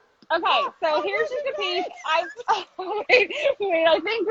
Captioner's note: laughs